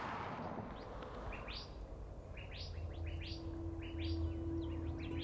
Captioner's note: birds tweeting